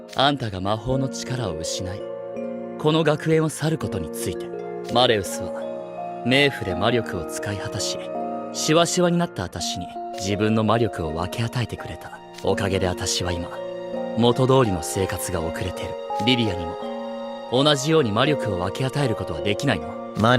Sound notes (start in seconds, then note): none